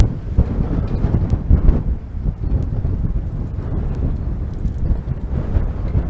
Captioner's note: wind noise